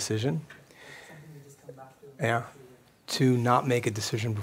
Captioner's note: voiceover